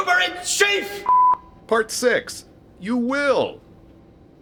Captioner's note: beep